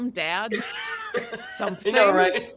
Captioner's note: laugh